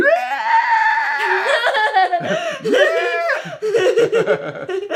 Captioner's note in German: macht alberne Geräusche